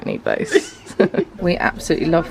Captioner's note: laughing